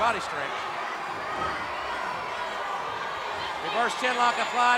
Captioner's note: crowd clamoring